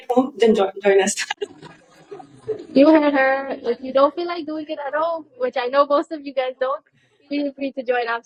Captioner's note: laughter